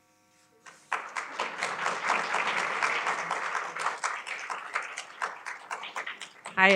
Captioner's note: applause